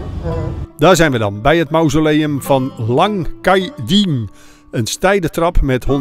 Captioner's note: voiceover